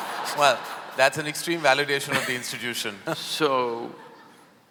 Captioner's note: laughter; both laugh